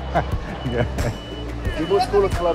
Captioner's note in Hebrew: צוחק